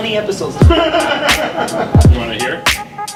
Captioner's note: laughing